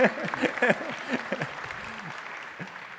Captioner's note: applause